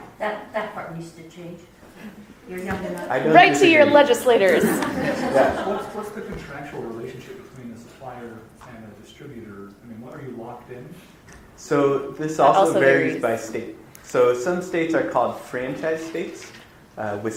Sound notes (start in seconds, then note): 3.3 audience laughter